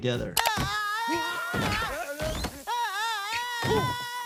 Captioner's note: Lou Allen shouting